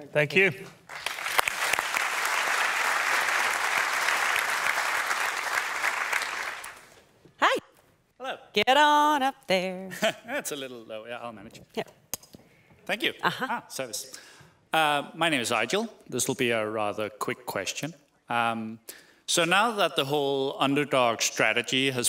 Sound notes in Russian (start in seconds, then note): 0.8 публика аплодирует